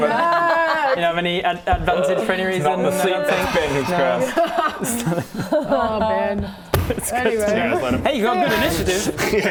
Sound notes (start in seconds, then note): 3.2 inevitable sigh